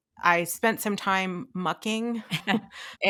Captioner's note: laughing